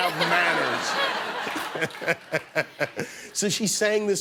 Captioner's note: laughter